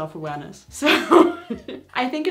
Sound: laughs

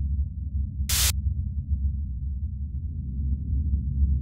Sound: air hisses

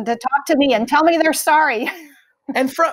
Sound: laughing

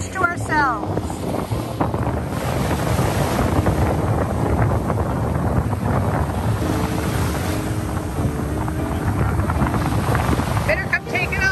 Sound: waves, Wind and Music

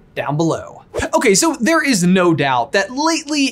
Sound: air whooshes

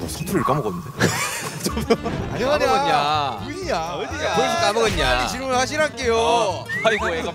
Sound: yelling in satoori

